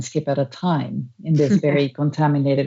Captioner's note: laughs